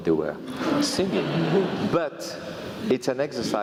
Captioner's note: laugh